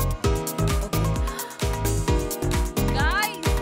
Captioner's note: Gasps